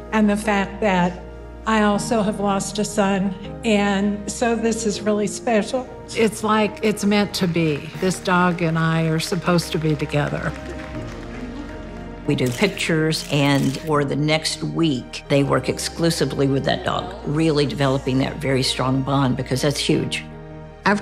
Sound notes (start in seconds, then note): 7.4 attendees applauding; 13.3 camera shutter clicking